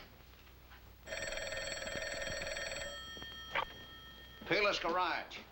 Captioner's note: phone ringing